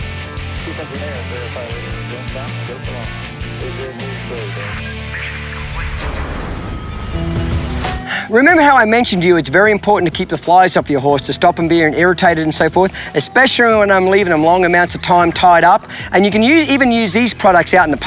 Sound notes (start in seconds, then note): 6.4 mellow country music; 6.4 shimmering